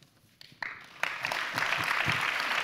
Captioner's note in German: Applaus